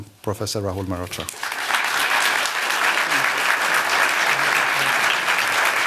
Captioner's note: applause